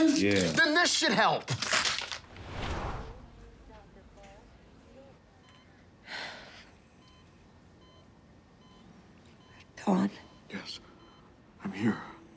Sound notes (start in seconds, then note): 6.9 heart monitor beeping